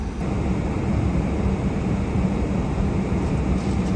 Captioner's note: heater whooshing